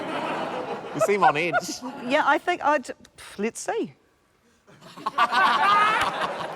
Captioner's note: laughter; exhales; laughter